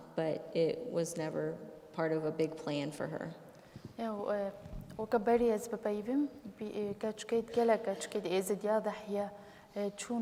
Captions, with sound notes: But it was never part of a big plan for her. [SPEAKING KURDISH]